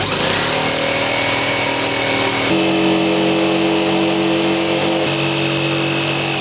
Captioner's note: whirring